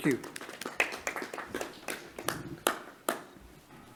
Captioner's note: clapping